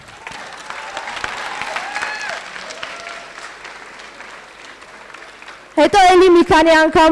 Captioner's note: applause